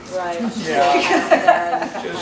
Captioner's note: laughter